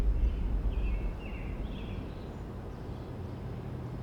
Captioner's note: birds chirping